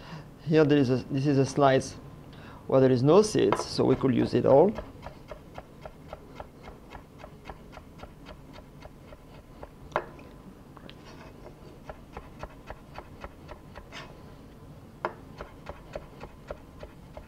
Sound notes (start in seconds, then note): 9.1 slicing sounds